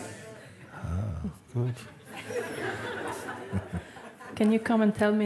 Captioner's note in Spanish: risas